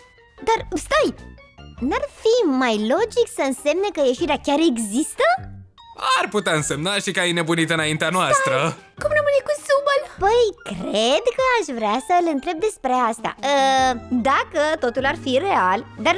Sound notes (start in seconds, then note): 8.5 quietly